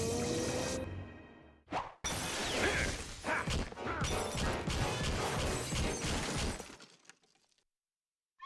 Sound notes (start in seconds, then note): 2.6 grunting